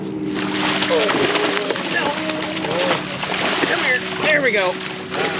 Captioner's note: fish splashing